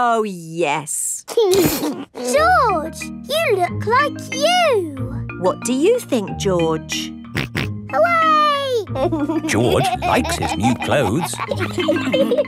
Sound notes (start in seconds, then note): 8.9 snorts and laughs